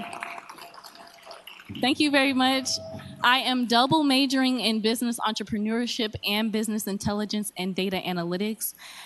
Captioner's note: applause